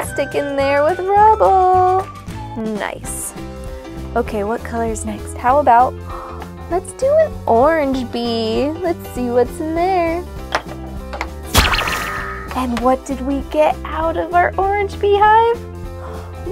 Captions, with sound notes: and stick it in there with Rubble. Nice. Okay, what color is next? How about... Let's do an orange bee. Let's see what's in there. (magical zap) And what did we get out of our orange beehive?